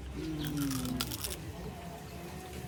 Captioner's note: crunch